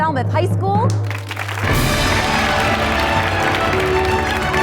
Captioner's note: applause